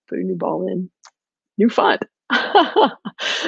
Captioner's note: click; laughing